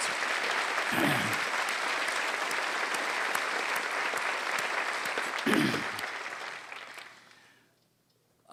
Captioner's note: applause